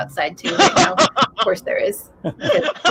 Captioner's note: laughing